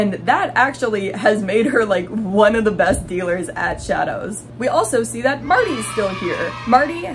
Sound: crowd cheering

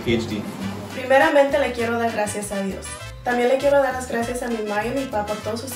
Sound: speaks in foreign language

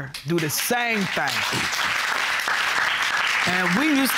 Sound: audience clapping

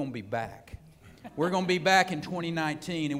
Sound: laughter

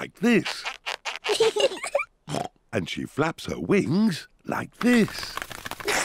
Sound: both laugh; oinks; both laugh

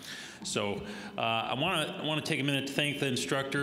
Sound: none

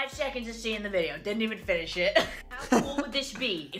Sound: laughs

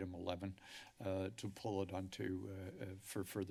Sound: inhales

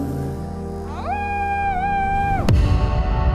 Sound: howls

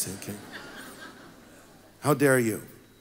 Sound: congregation laughs

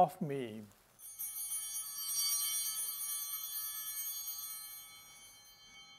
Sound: bell ringing

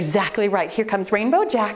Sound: timer beeps

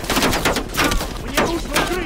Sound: gunfire

